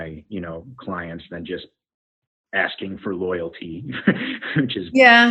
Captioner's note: laughs